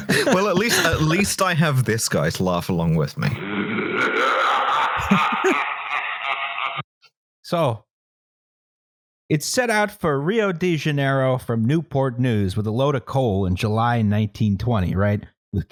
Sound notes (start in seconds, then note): 0.0 laughter; 3.4 monstrous laughter